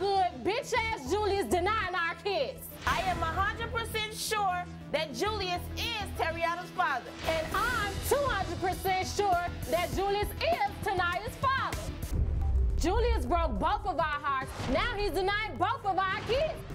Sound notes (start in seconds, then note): none